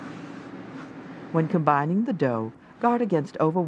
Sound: voiceover

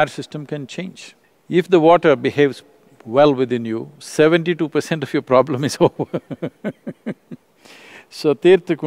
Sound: laughs

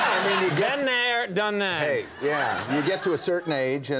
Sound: audience laughs

